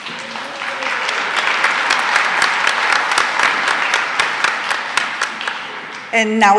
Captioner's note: applause